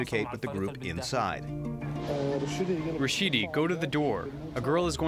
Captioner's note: through translator